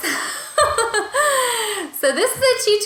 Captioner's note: laughing